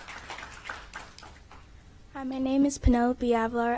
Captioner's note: applause